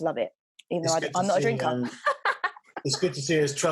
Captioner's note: laughs